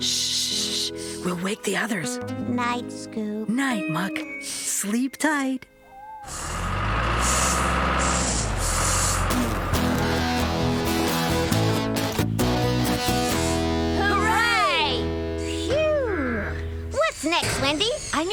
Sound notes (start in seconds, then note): 6.2 engine Running; 10.8 theme Music Playing